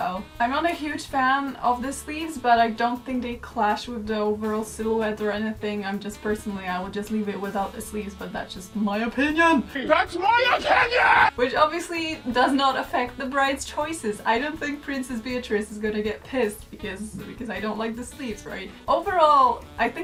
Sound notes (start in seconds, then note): 9.8 blond woman yelling